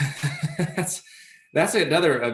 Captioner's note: laughs